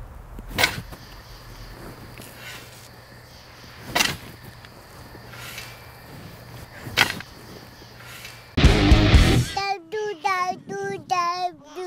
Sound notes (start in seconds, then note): 8.6 upbeat music; 9.7 child speaking